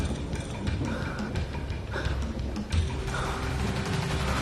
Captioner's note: panting